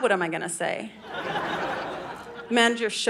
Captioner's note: audience laughing